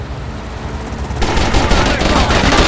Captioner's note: gunfire